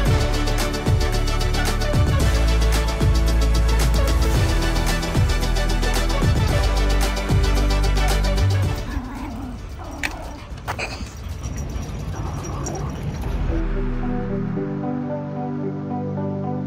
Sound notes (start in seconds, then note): 9.1 angry noises